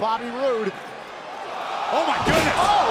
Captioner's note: crowd cheering